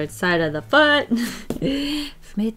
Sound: deep inhale

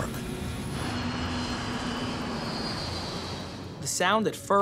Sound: engine humming

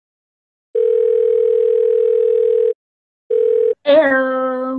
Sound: phone ringing

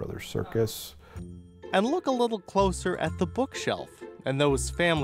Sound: voiceover

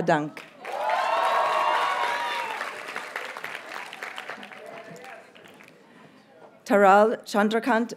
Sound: audience cheers and applauds

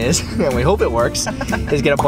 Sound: laughing

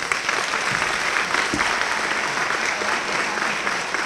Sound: applause

